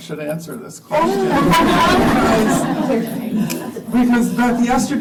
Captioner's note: laughter